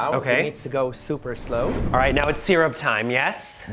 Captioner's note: air whooshing